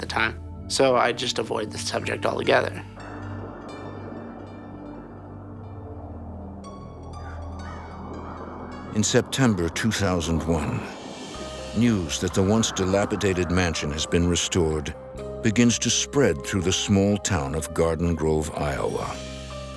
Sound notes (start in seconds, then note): 3.2 eerie music; 3.2 wind gusting